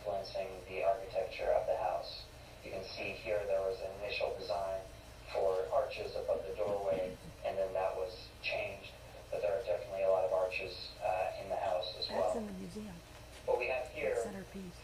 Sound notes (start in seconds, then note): none